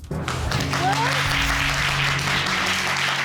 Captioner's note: audience applauding